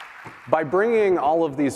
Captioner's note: applause